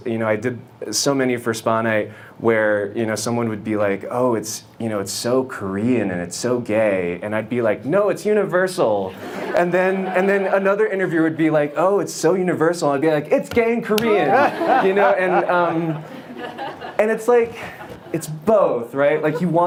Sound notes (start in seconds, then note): 9.1 audience laughs; 14.1 panel and audience laugh